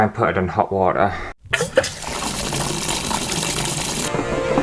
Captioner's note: running Water; dramatic Music